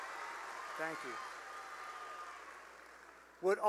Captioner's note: cheering and applause